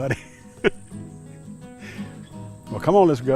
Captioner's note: laughing